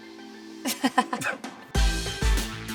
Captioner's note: laughing